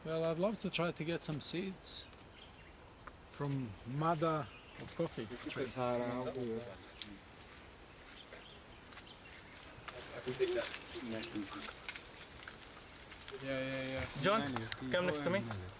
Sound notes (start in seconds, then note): 10.4 people chattering